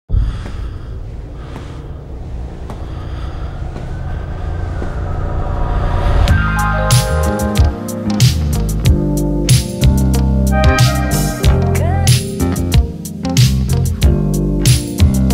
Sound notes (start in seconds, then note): 0.1 heavy breathing; 4.2 distant siren